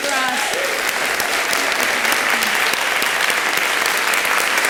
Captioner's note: applause